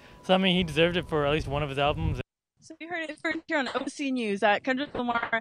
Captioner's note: interrupted audio